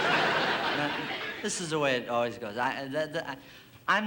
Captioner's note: stammers